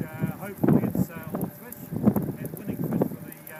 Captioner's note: wind gusts